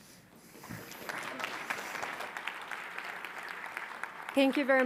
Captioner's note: audience applauds